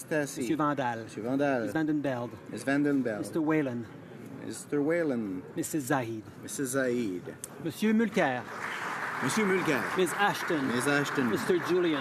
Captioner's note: calling of recorded vote